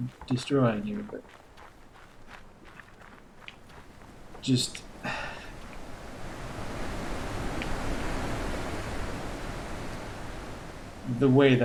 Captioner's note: sighs; chuckles